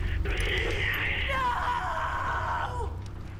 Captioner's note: woman screaming